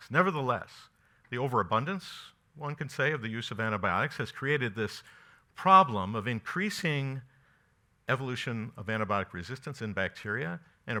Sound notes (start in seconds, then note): none